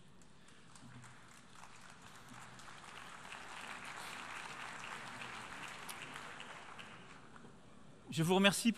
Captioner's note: applause